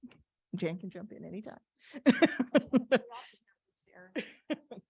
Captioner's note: laughs